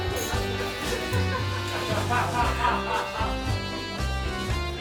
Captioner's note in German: lautes Lachen